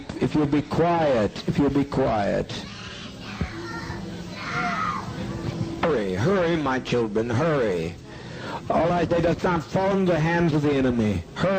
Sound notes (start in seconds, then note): 2.5 children screaming